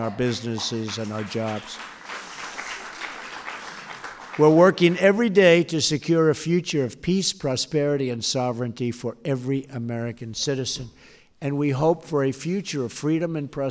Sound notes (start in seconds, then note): 1.6 applause